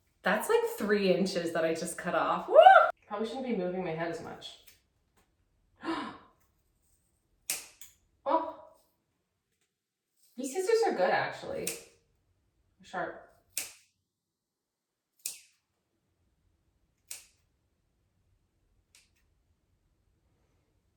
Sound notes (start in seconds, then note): 5.8 gasp